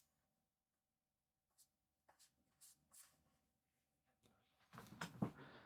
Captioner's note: silence